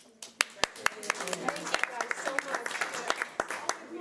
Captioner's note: audience applause